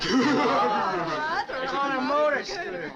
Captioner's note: all chuckling